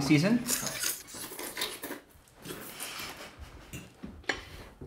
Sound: Finch slurping

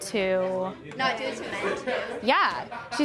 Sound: murmurs

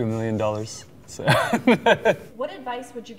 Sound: laughing

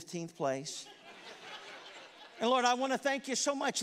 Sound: congregation laughs

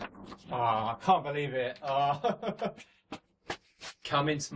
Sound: laughs

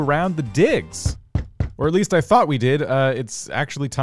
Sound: knocking on door

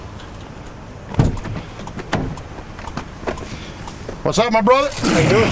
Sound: car door thuds

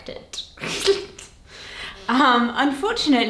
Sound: laughing

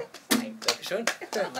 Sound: clapping

